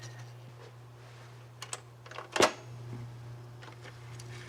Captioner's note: tape machine clicks